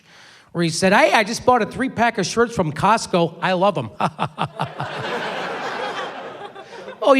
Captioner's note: laughs